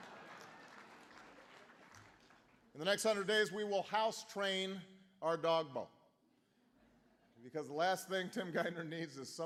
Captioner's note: laughter